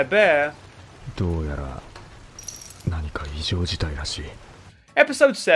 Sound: speaking foreign language

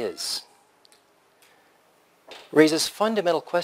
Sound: pause

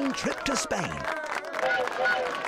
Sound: train whistle blows

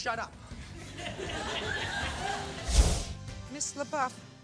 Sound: audience laughs

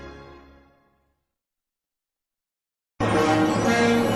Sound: silence

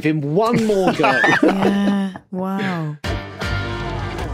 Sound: giggle

